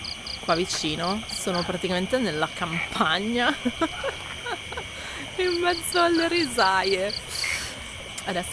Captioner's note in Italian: risate